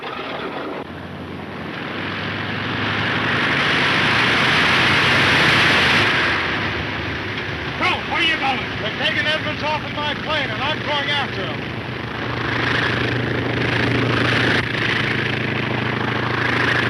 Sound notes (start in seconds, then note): 2.4 engine roaring; 12.1 plane droning